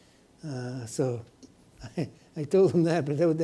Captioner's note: chuckles